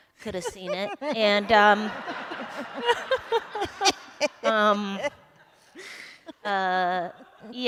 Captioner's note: laughter